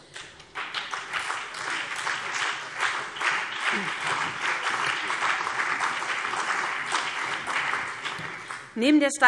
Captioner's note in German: Beifall BÜNDNIS 90/DIE GRÜNEN und vereinzelt CDU